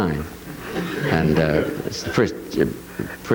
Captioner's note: audience laughing